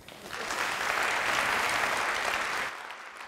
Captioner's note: applause